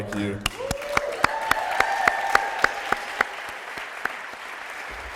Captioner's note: applause